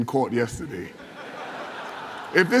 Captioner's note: laughter